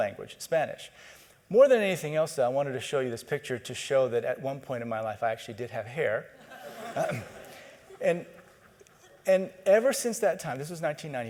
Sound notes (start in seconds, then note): 6.4 audience: Laughter